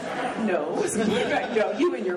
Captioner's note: laughing